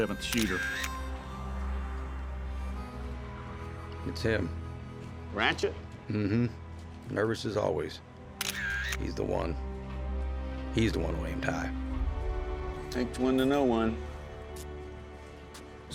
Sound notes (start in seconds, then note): 0.2 camera click sound; 8.4 camera shutter